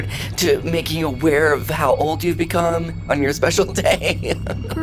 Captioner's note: laughs